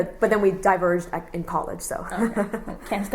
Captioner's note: laughs